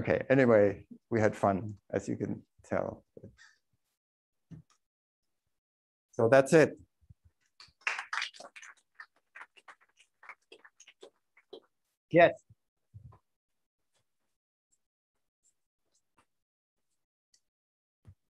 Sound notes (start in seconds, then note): 7.6 applause